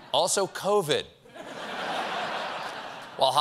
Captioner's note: laughter